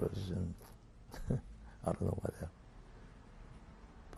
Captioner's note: laughs